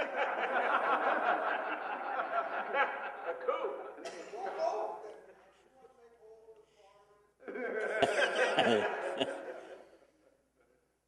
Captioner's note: laughing